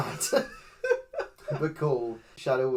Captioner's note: laughs